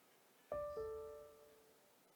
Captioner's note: e-mail chime